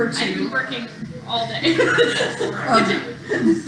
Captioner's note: laughter